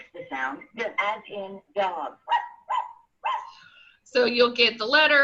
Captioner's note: dog barking 3 times